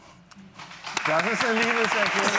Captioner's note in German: Applaus